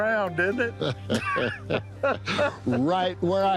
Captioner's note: chuckling